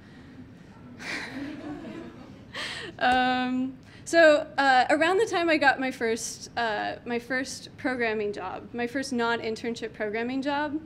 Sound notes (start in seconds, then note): 1.0 suppressing laughter